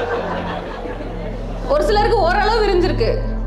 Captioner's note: audience laugh